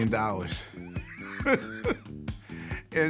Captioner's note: laughs